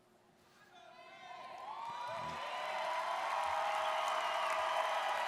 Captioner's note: audience cheers